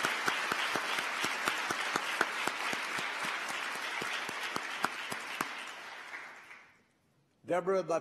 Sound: applause

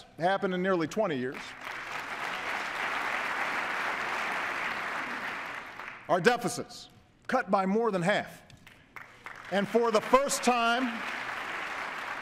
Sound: applause

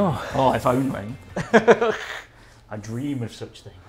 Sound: laughs

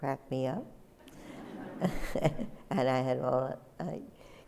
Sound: laughter

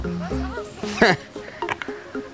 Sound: laughs

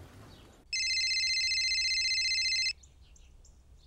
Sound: phone rings

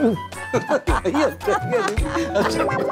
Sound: laughing

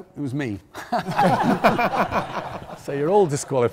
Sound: contestants laughing

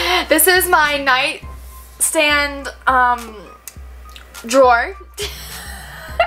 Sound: laughs

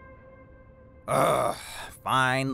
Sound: growls

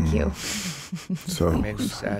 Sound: giggling

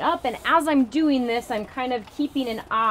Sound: pump whooshing

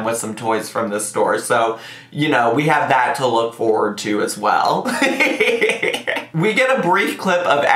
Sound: laughs

